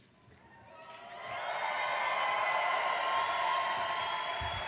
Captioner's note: cheering